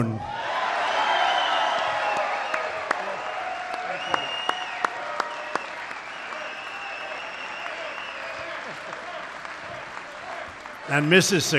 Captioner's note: applause